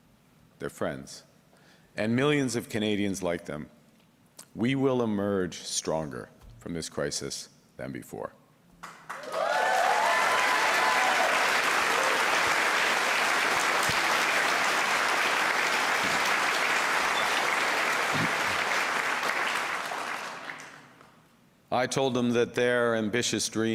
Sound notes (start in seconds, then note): 11.8 cheers and Applause